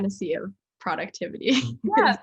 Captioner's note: laughs